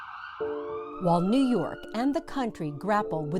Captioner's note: ambulance siren